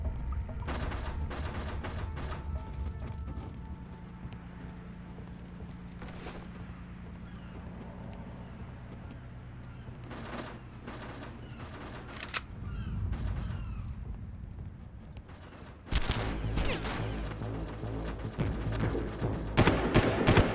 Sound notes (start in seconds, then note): 0.1 gun firing; 6.2 dramatic music; 6.2 gun firing